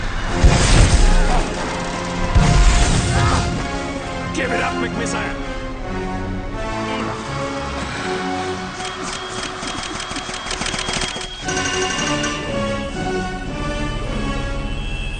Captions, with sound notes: Aagghh! Give it up, McMissile. (RAPID BLEEPING)